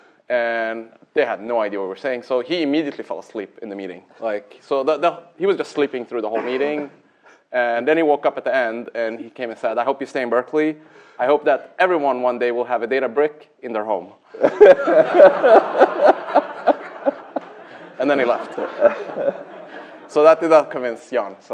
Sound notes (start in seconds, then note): 14.3 laughter